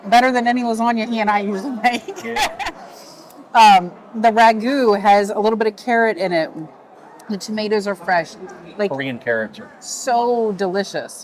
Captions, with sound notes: Better than any lasagna he and I usually to make. (laughs) The ragu has a little bit of carrot in it. The tomatoes are fresh. Korean carrot. So delicious.